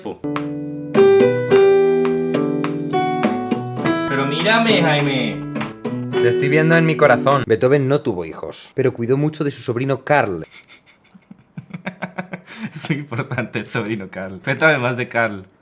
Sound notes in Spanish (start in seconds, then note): 4.9 Interferencias GSM; 10.5 Risas